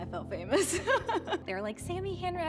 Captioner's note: laughs